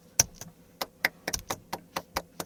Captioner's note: seals clap